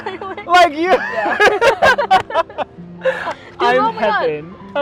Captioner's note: laughing